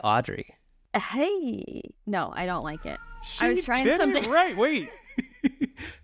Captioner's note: cat meows